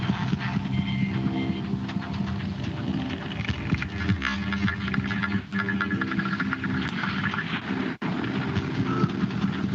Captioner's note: beeping